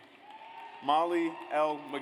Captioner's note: audience applauds